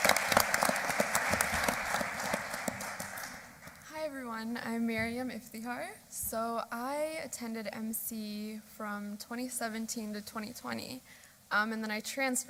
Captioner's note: applause